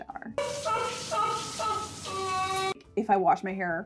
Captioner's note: exaggerated crying